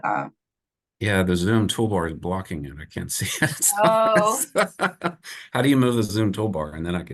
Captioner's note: chuckles